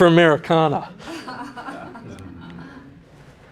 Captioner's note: laughing